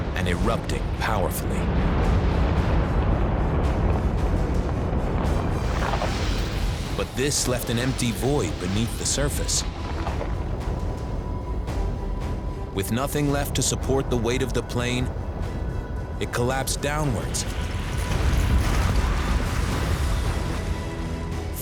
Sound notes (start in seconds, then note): 2.7 explosions echoing